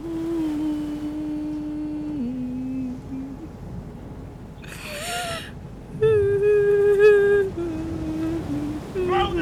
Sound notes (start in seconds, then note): 4.5 weeping while humming